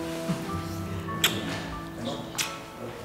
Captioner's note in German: Kusslaute